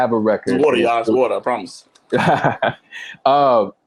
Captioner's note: laughing